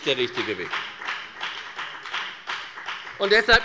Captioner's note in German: Beifall bei der FDP